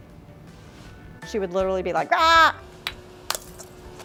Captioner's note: yells